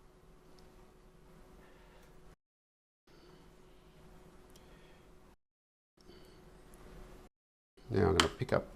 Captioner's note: silence